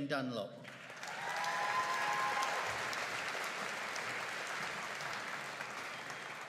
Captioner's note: audience cheering and applauding